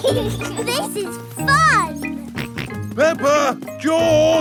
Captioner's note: both laughing; george snorts